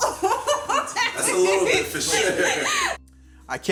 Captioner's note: Angela hooting and laughing; laughing